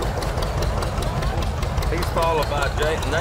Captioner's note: revving continues